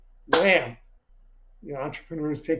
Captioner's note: hands clap